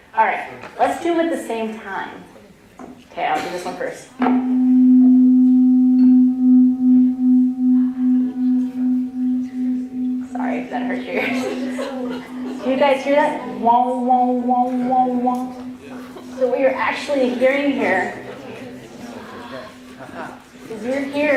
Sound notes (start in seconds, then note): 4.1 tone; 6.1 tones reverberating